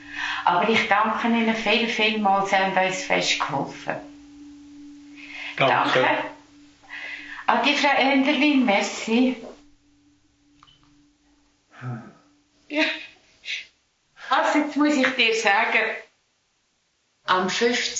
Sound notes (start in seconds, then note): 10.2 phone beeps off; 17.7 speaking Swiss German